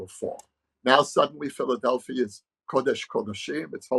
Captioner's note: speaking hebrew